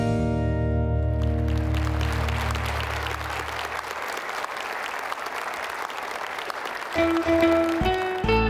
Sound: applause

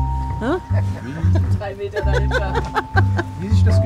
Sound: laughs

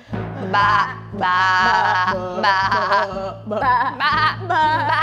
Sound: dramatic music; baaing

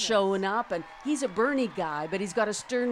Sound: applause

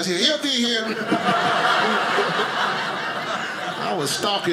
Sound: audience laughing

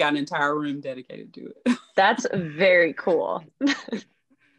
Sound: laughs; laughing

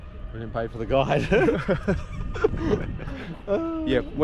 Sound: laughter

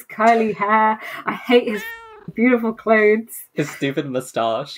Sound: meow

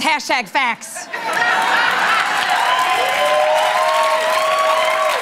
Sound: laughter, cheering, applause

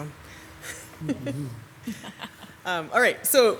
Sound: council members laugh

